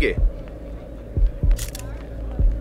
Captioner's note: Camera Click